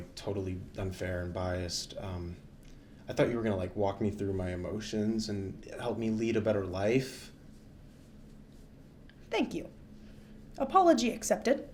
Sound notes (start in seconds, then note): none